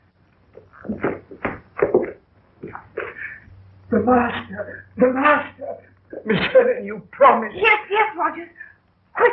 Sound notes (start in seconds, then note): 0.7 pounding